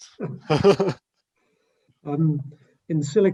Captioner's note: laughs